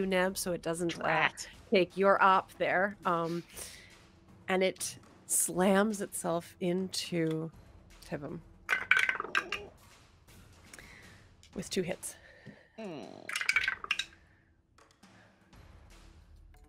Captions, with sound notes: Neb, so it doesn't... - Drat. - Take your op there, and it slams itself into Pivum... (dice clatter) With two hits. (dice clatter)